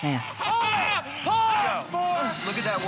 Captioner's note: screaming